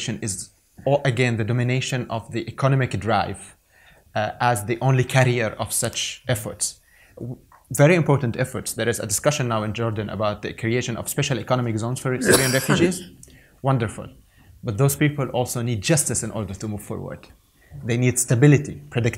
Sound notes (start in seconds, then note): 12.2 cough drowns out